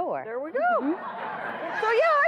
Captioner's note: audience laughing